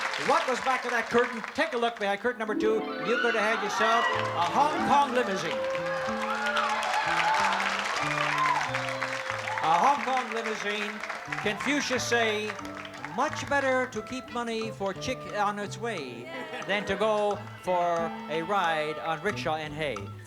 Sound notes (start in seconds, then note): 5.9 applause